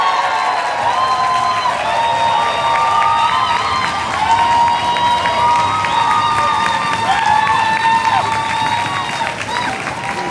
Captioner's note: cheers, table banging and clinking of glasses